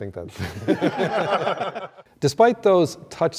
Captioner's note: group laughter